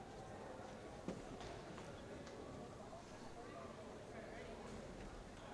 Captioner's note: crowd chattering quietly